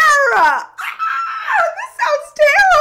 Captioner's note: screams